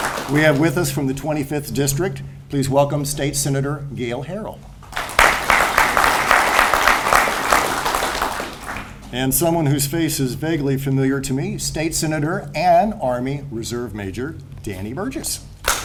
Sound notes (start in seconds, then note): 4.8 audience applauds